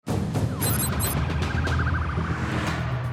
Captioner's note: siren wailing